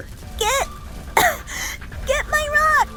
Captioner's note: coughing